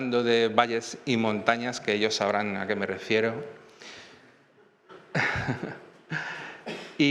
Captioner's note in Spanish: risas